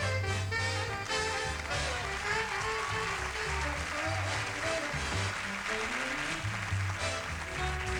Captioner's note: audience applauds